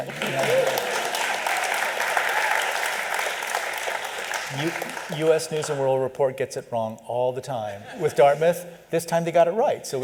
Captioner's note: applause